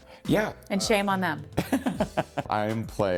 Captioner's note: chuckling